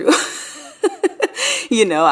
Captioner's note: laughing